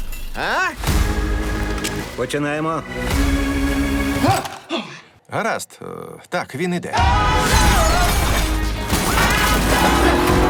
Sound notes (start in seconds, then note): 4.6 gasps